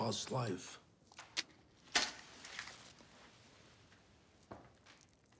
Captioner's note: match strikes